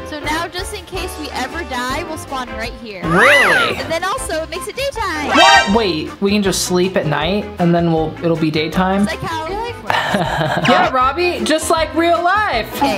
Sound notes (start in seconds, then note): 10.0 laughs